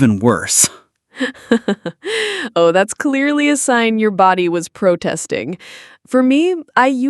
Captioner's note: laughs